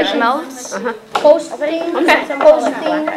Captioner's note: chatter